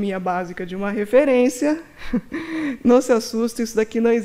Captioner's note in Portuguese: risos